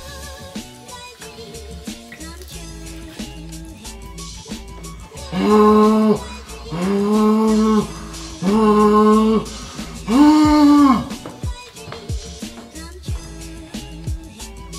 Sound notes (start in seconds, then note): 0.2 easygoing lighthearted music; 5.1 mimicking hand dryer sound